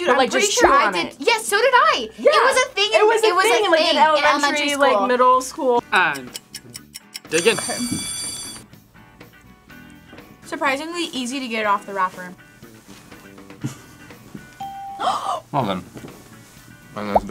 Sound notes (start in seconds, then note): 7.2 bell rings; 13.6 laughs; 14.6 bell rings; 15.0 gasps